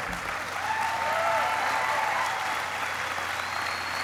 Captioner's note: applauding